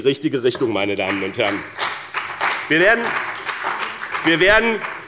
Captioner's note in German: Beifall bei dem BÜNDNIS 90/DIE GRÜNEN und der CDU